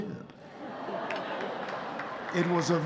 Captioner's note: audience laughing and applauding